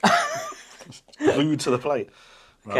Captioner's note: laughing